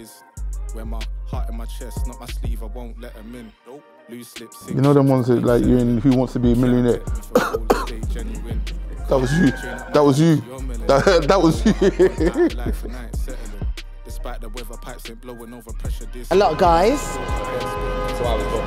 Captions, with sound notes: You know them ones like, who wants to be a millionaire? *cough* that was you, that was you, that was you! A lot of guys.*car horrrrn*